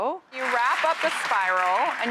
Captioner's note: crowd cheers